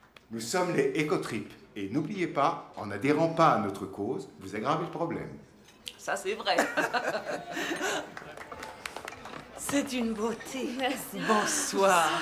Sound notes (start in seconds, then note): 6.4 laughs; 7.8 clapping